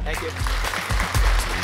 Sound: clapping; upbeat music

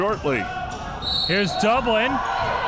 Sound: whistle blows

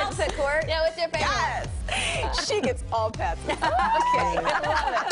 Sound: laughter

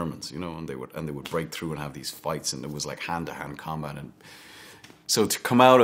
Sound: none

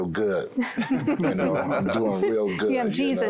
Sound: laughter

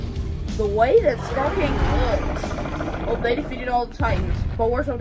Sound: all growl

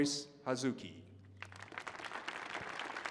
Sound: applause

